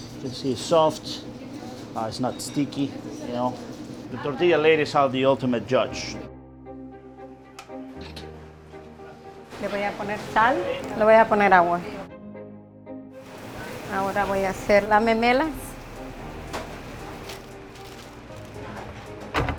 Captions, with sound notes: - This is soft, it's not sticky. You know, the tortilla ladies are the ultimate judge. (upbeat music) (speaking in foreign language) (speaking in foreign language)